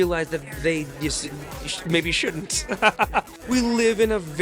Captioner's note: laughs